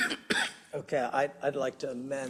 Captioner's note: cough